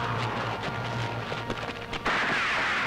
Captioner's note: Gunshot